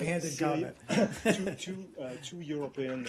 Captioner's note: laughter